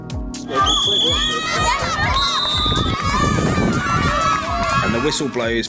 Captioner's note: whistle and cheers